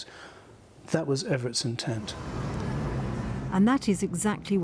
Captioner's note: traffic whizzing